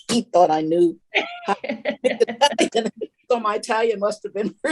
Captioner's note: all laughing